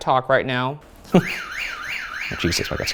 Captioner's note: alarm blaring